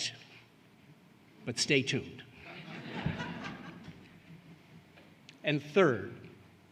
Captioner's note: laughter